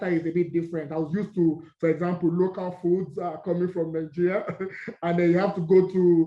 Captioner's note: laugh